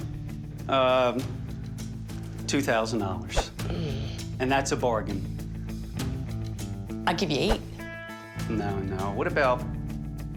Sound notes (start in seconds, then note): 0.0 dramatic music; 3.4 sighs